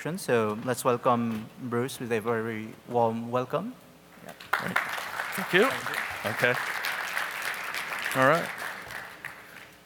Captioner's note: applause